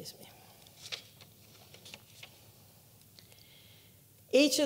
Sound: paper rustling

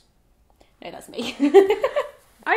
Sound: laughing

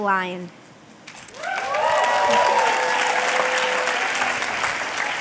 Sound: applause

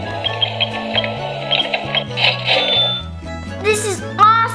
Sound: cash register dings

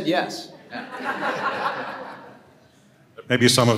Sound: audience laughing

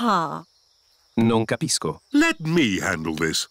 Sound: replies in italian

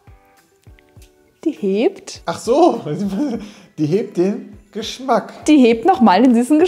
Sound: laughing

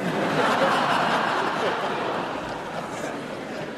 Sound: laughter

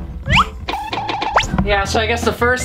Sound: cartoonish bouncing

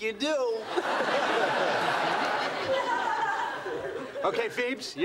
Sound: audience laughing; laughs

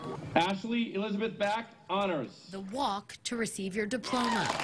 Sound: cheering and applause

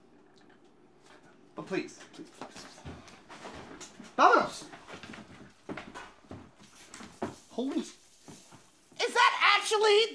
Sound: footsteps

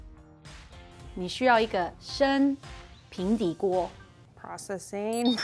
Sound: speaking in mandarin

